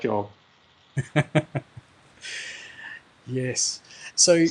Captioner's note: laughs